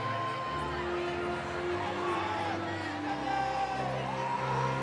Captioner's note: audience cheering